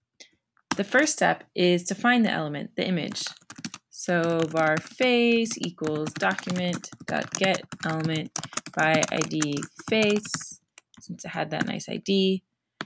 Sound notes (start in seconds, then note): 5.3 typing